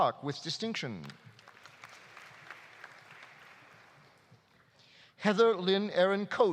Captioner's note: audience applauding